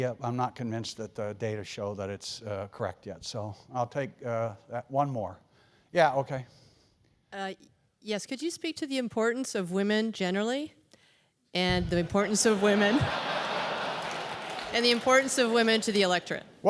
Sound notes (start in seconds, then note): 11.9 laugh